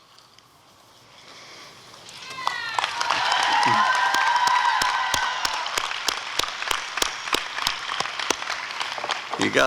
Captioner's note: applause and cheering